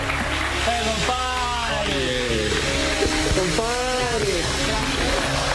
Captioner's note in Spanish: aplausos